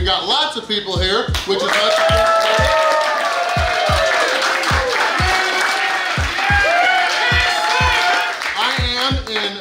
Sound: clapping & Cheering

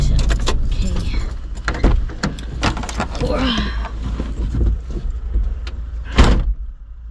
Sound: engine stops, door opens, then slams shut again

